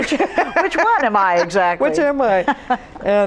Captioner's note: laughs